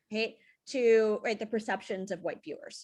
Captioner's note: none